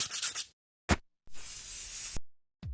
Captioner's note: paper scratching; air hissing